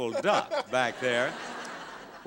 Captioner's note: audience laughing